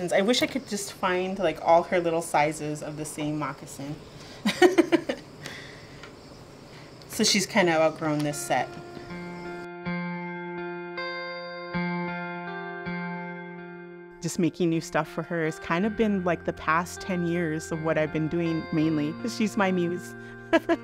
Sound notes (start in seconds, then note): 4.4 laughing; 9.4 gentle music